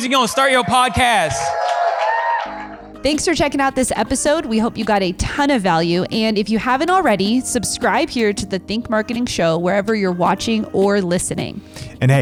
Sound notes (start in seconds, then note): 1.5 audience cheers and applauds